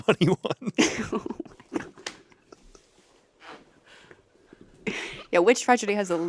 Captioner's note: laughter